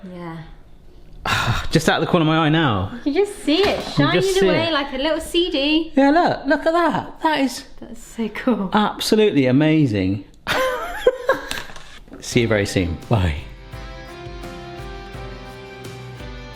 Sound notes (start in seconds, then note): 10.5 laughs; 12.3 uplifting music